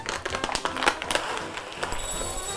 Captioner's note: bag crinkling; popcorn rattling